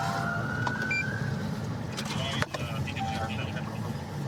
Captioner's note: police siren